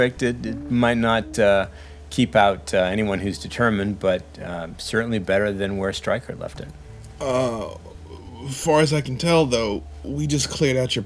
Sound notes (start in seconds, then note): none